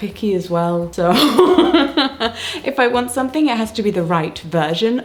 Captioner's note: chuckles